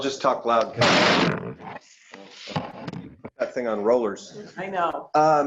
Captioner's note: crash